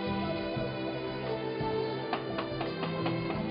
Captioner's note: knocks